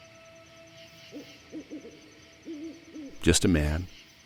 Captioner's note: owl hooting